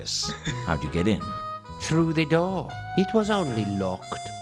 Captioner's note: laughs